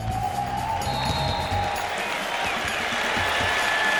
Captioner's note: blast of whistle; game hubbub; applause